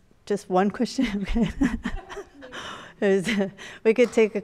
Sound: laughs

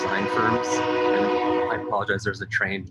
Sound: train whistle

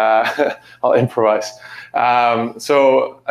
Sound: chuckles

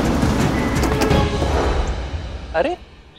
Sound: pats on car

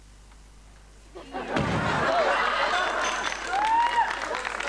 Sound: clap; glass breaking sound; applause

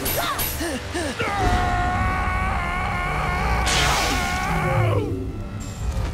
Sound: grunting; screaming

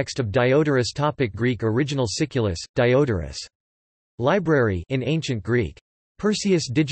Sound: in Ancient Greek

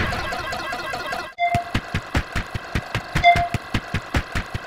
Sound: iMovie Ping

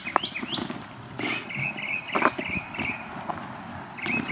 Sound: sniffle

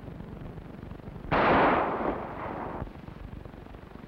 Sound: gun fires

